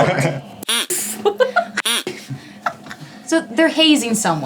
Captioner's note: effects creaks